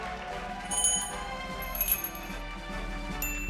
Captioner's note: cheers and applause; bells jingling